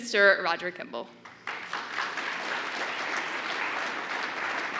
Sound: applause

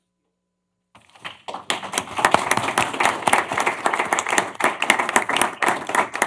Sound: applause

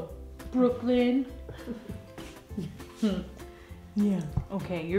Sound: laugh

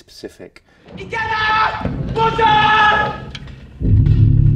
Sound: shouting

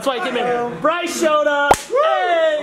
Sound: hand slaps

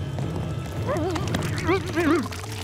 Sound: groaning

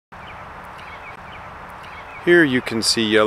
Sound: bird chirping

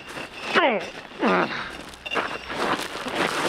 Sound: grunting

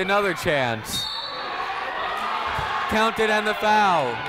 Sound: whistle tweeting

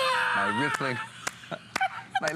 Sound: laughter

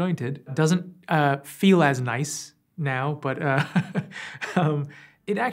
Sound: laughs

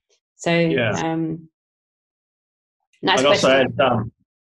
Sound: group chattering

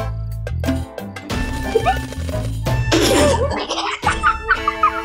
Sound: giggling

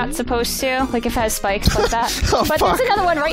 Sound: laughing

